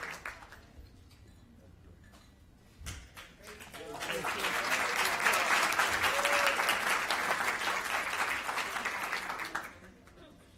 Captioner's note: applause